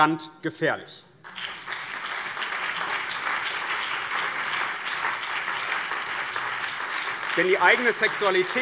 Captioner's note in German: Beifall BÜNDNIS 90/DIE GRÜNEN, CDU, vereinzelt SPD und DIE LINKE